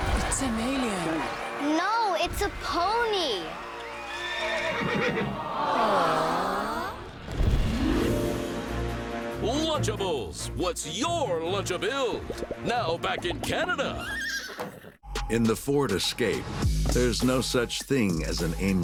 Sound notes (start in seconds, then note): 4.0 neighing